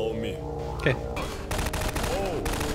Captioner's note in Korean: 총소리